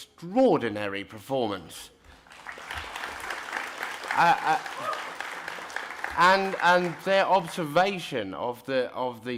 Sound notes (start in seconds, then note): 2.2 applause